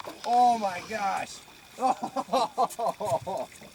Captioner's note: laughs